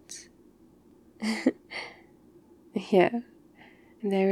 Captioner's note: laughs